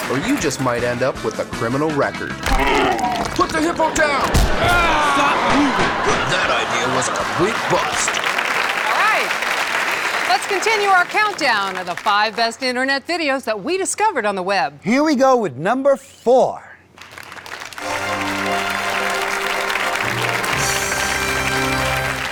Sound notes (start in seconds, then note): 2.6 hippo grunts; 4.6 screaming; 8.3 applause; 16.9 applause; 17.8 dramatic and triumphant fanfare